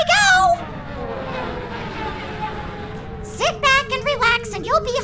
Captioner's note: ship descending rapidly